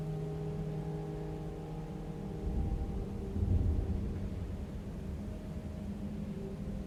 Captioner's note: wind blowing continues